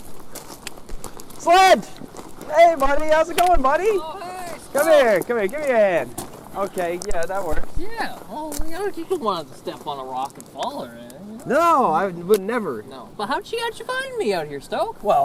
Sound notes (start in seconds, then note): 1.4 shouting